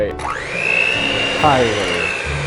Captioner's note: machine whirring; chuckles